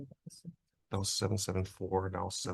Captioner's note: speaks faintly